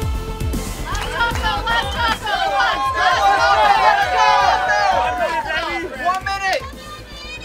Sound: enthusiastic Cheering; cheering & Clapping

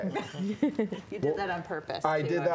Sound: laughing

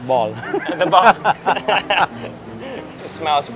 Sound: laughter

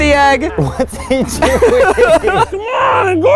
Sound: laughing

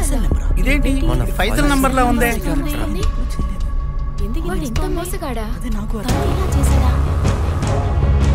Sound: staffs murmurring

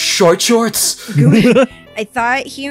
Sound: giggle

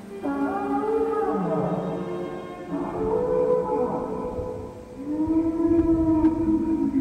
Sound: distant Dinosaur Sounds

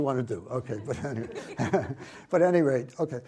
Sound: audience laughs

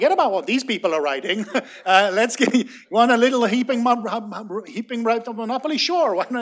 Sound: laughter

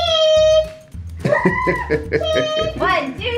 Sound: laughs

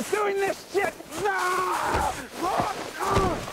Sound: screaming

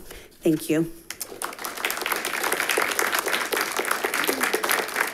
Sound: audience applauds

